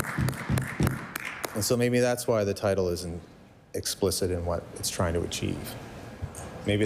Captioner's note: applause